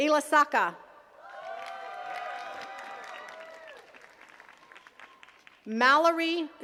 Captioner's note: attendees cheering and clapping